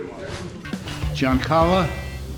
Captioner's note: air whooshing